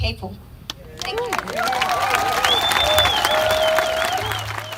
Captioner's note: crowd cheering